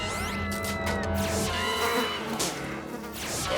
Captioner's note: flies buzz